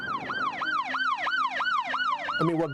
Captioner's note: sirens; gunshots